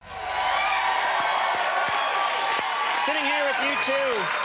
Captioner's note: audience clapping